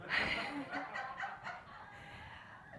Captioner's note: audience laughs